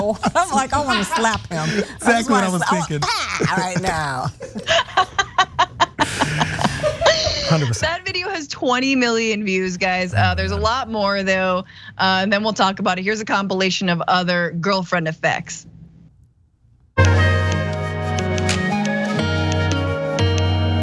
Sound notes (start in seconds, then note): 5.7 laugh